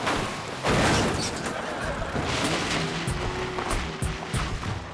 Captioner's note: audience laughing